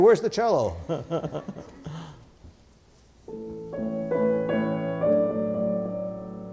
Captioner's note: laughs